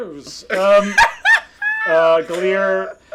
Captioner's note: laughing